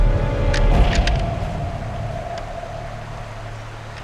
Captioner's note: gun clicks